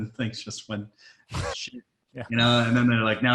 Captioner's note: laughs